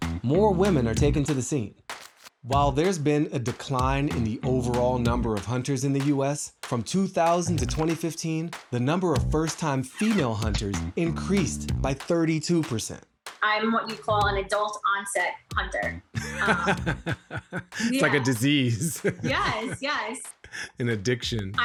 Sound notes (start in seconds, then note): 16.1 Baratunde laughs